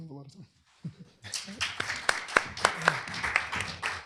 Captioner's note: applause